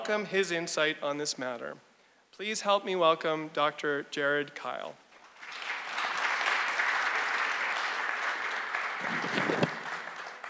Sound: audience applause

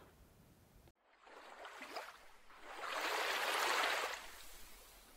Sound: water waves splashing

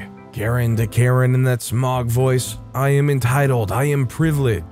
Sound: in that Smaug voice

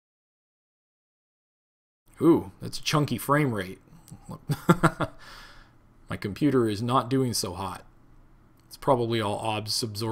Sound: laughs

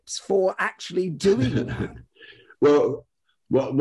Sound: chuckles

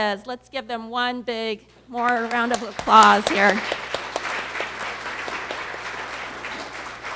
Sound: applause

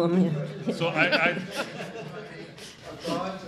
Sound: speaking off mic

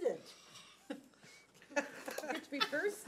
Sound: laughs

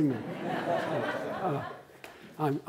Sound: laughter

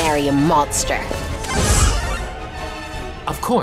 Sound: power up sound

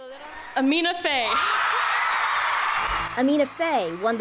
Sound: cheering

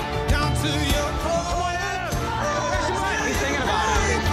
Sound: shouting

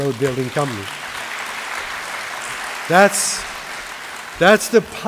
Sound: applause

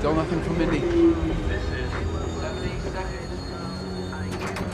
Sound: announcer over PA

